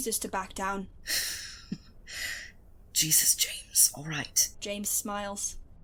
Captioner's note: Remus laughs